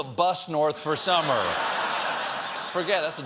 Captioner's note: laughter